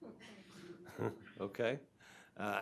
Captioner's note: chuckling